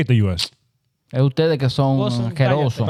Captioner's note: speaking In Foreign Language